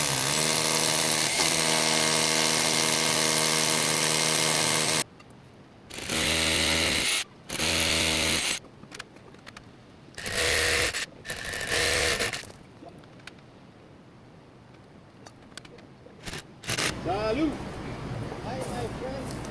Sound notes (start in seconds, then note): 2.7 motor whirring